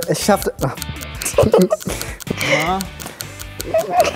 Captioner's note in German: kichert